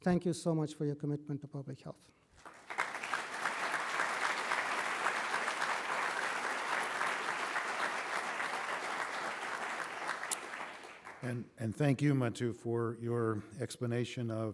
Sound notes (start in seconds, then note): 2.3 applause